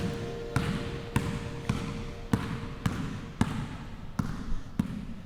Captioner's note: basketball bouncing